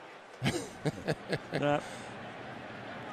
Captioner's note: laughs